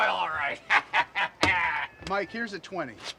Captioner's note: laughing